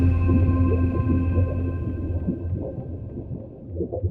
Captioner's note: water gurgling